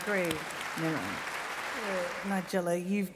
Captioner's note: applause